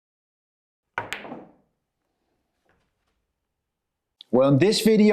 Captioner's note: balls clacking